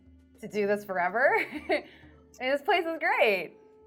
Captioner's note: laughs